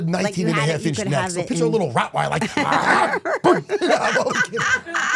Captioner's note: snarls